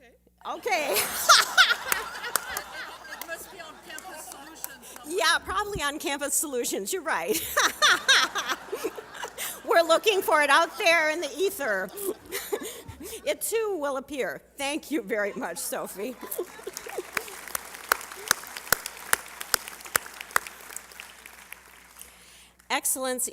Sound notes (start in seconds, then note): 0.7 laughter; 10.7 laughter; 19.4 applause